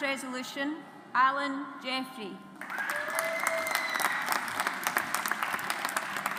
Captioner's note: audience applauds